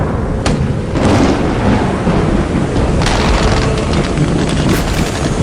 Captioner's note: cannons and tanks firing